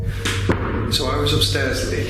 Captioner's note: banging